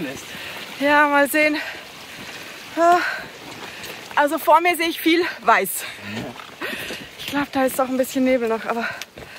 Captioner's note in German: Lachen